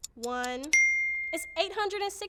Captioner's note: clock ticking; bell ringing